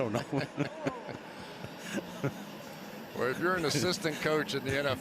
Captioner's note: laughter